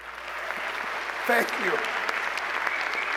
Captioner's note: applause